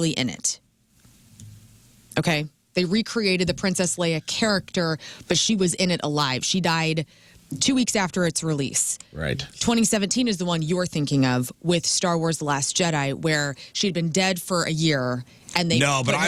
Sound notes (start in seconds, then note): none